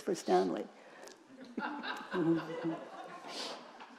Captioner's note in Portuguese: risos da plateia